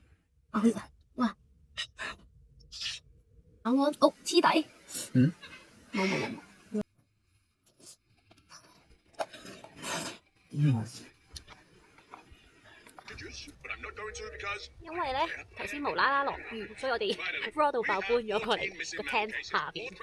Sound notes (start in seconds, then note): 7.8 silent~ we were too hungry to talk